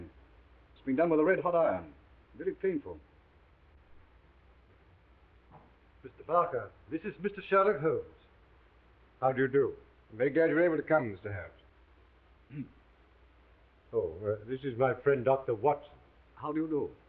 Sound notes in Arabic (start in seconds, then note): 12.4 سعال واتسون